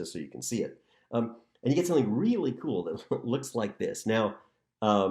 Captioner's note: laughter